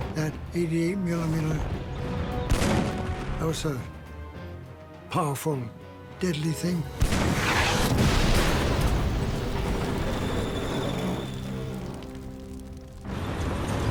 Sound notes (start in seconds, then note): 7.0 shell exploding